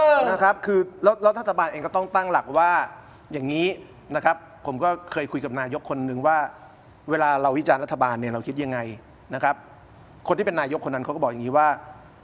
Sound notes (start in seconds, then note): none